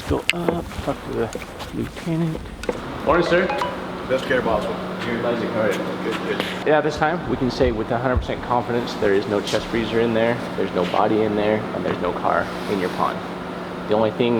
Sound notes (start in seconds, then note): 3.3 phone beeping